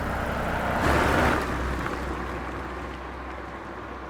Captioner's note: car engine revs